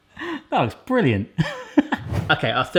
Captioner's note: laughs